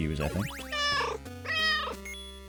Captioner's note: meow